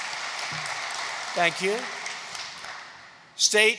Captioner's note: applause